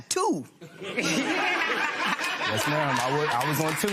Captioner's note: laughter